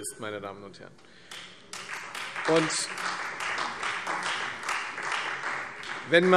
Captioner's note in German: Beifall